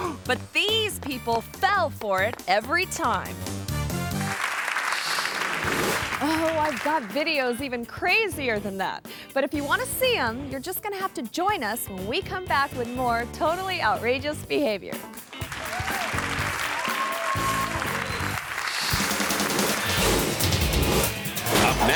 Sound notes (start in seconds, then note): 3.8 audience claps; 15.1 audience claps and cheers; 19.2 upbeat music